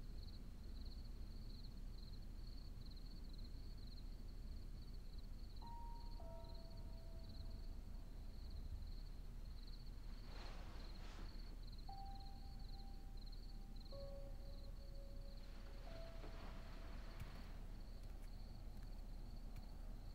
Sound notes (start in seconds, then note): 7.3 suspenseful music; 11.9 crickets chirping